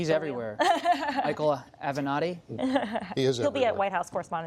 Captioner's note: laughter